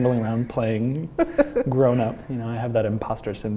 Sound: laughs

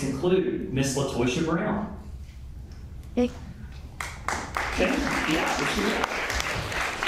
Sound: applause

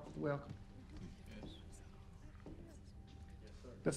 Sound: churchgoers whispering

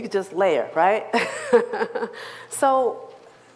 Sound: laughs

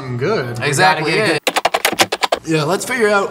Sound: keys typing

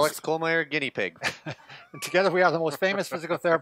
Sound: chuckles

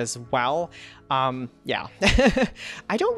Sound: laughs

